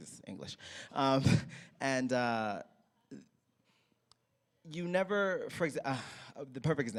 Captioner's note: sighs